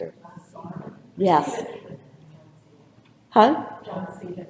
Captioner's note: audience member speaks off-microphone